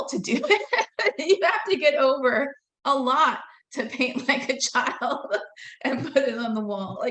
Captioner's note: laughing